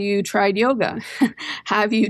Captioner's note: laughter